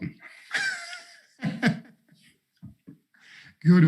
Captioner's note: laughs